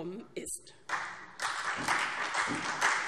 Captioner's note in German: Beifall SPD